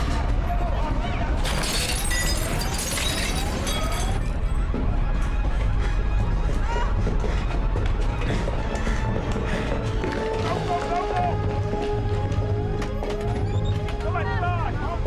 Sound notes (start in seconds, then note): 1.4 glass shattering